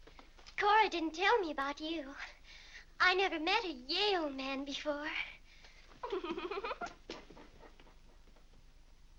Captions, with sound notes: Cora didn't tell me about you! I never met a YALE man before. (Mary giggles)